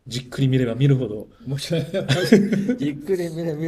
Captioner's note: laughs